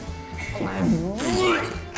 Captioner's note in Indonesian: suara alien